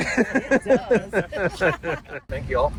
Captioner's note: everyone laughs; laughs